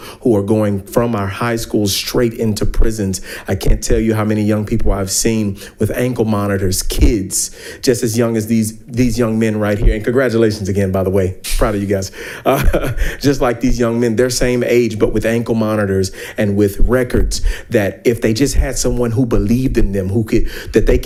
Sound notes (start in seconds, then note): 12.4 laughs